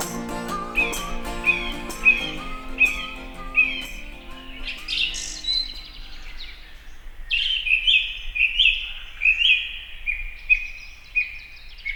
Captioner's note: loud birds in the woods